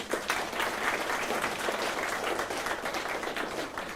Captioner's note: applause